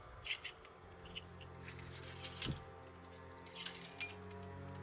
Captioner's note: guns clanking